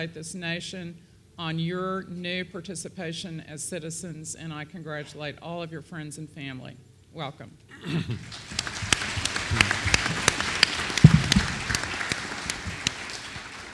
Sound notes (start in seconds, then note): 8.2 applause